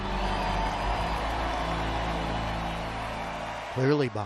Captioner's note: cheering